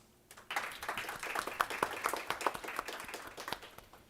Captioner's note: audience claps